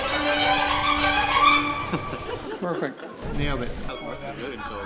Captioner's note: laughter